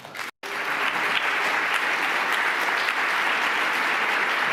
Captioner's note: applause